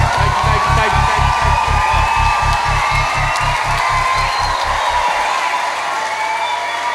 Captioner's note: pulsating ticking; loud cheering